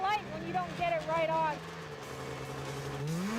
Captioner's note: engines revving